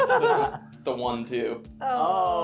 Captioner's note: laughing